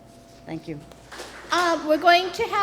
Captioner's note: applause